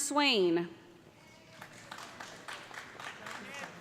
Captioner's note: applause